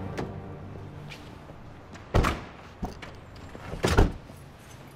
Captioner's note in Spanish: Sonido de las puertas